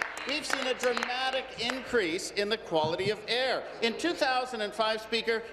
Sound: applause

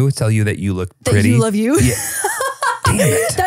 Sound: laughs

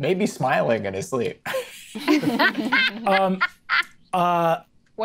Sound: players laughing

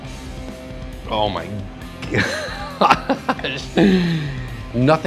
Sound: laughs

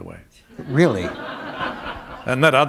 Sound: laughter

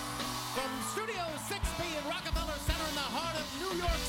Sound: cheers and applause

